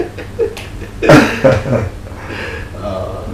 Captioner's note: laughing